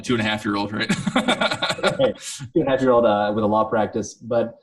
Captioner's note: laughing